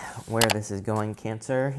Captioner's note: button clicks